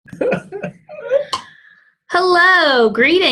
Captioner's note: laughing